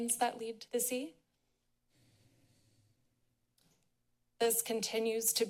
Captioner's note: pause